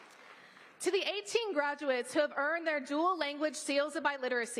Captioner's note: applause